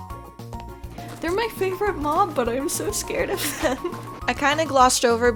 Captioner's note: giggle